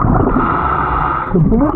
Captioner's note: oxygen tank hissing; oxygen bubbling in water